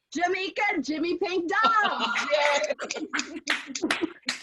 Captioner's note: applause